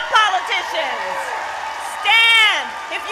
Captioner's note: applause